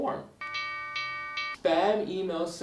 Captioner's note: alarm rings